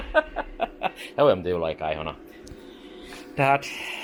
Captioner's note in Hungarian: nevetés